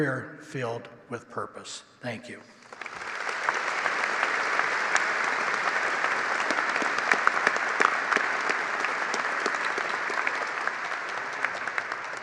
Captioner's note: applause